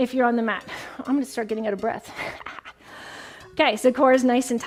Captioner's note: chuckles